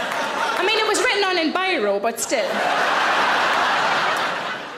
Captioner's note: audience laughing